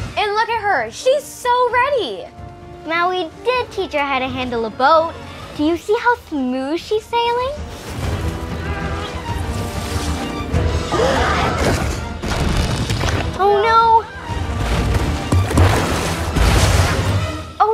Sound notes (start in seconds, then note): 8.7 Moana grunts; 10.8 Te Ka growls; 14.4 water splashes